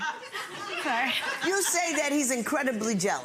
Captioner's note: audience laughs